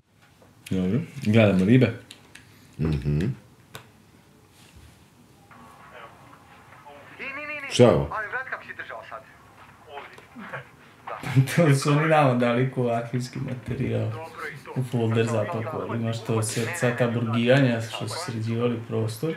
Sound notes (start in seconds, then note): 7.2 chatter